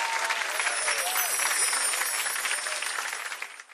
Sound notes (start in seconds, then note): 0.5 sparkling sound